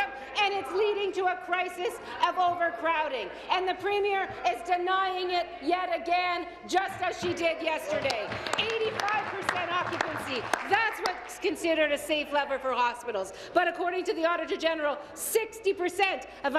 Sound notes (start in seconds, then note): 12.5 applause